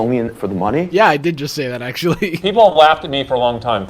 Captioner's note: laughs